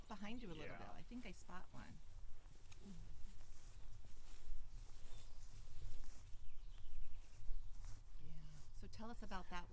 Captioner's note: footsteps on grass